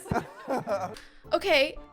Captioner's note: laughter